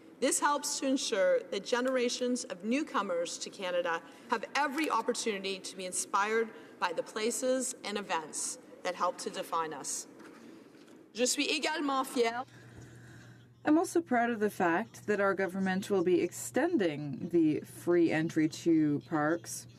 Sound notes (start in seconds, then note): 16.4 speaking in French